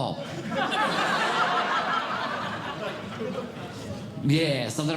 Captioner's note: audience Laughing